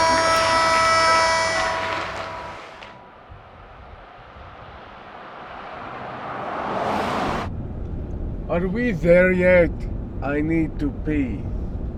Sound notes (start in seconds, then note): 0.0 horn blows; 4.1 truck engine revving